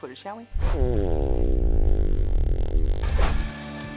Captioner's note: farting; upbeat music